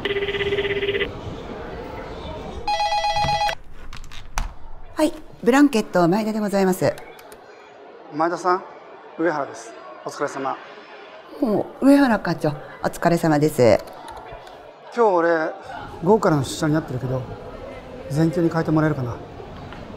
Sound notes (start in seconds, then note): 2.6 phone rings